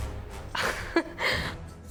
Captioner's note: chuckles